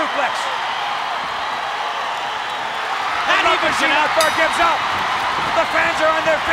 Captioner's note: applause